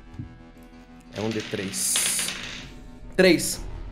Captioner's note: dice sounds